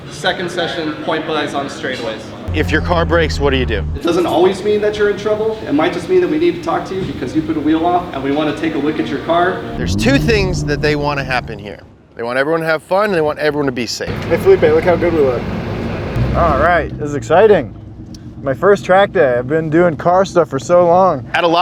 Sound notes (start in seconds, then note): 14.8 engine revving